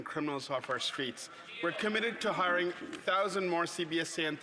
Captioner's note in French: voix de l'interprète